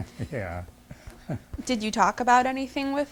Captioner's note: laughs